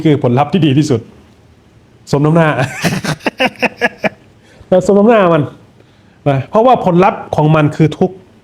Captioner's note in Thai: เสียงหัวเราะ